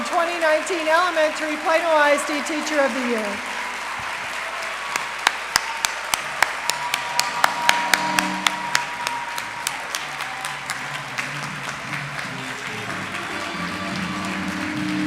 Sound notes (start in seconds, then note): 3.6 applause; 3.6 cheers